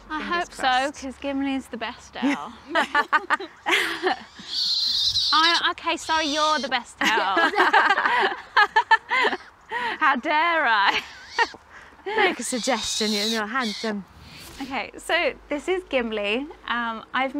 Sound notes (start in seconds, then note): 2.3 all laugh; 4.4 owl screeches; 7.0 all laugh; 12.4 owl screeches